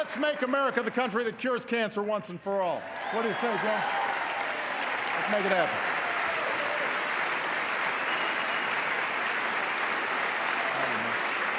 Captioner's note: applause